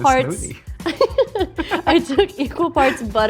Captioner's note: laughing